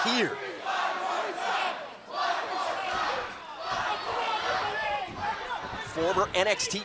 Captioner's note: crowd cheering